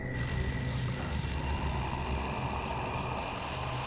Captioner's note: growling and static; whispering voices